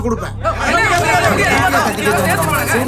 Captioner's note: raised voices